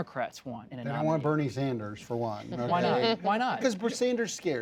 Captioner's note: laughter